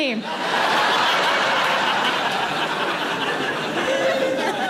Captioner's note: audience laughs